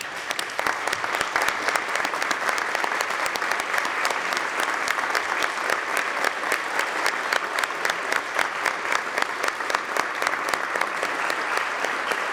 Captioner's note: applause